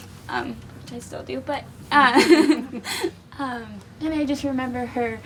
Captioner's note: laughing